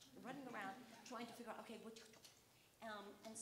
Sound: clicking; clicking

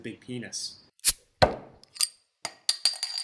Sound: bottle open sound

